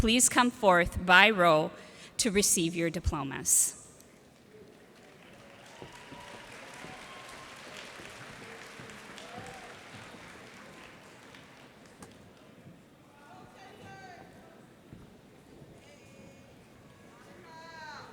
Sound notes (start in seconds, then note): 4.7 cheers and applause